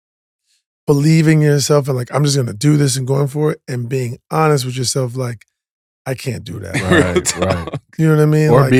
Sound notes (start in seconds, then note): 6.7 laughs